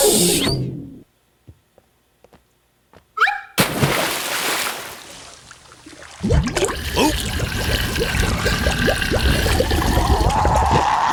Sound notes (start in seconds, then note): 3.6 splashing